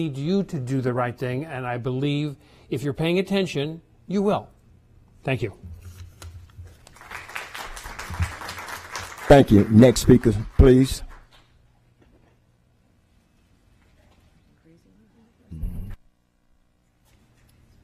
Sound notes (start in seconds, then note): 11.1 applause